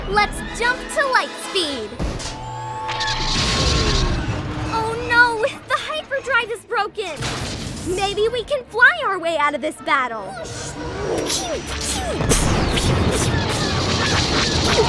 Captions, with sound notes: - Let's jump to light speed. [EXPLOSION] Oh, no! The hyperdrive is broken. Maybe we can fly our way out of the battle. - Whoosh. Pew, pew. [MAKES EXPLOSION SOUNDS]